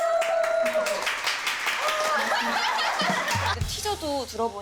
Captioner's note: clapping sound effect comes in the perfect time